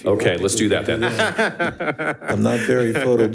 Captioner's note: laughs